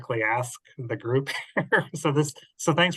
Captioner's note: laughs